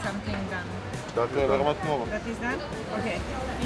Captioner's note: foreign language